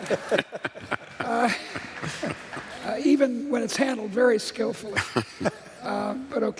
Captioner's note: laughter